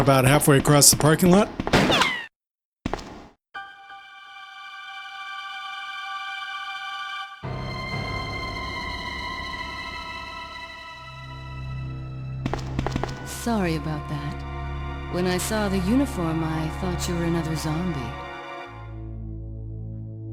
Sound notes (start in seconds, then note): 1.2 gunshot